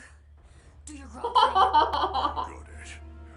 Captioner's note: laughter